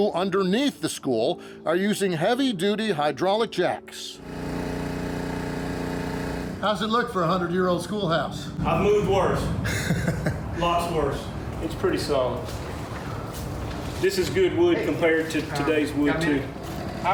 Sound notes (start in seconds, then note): 4.3 compressor rumbling; 9.5 laughs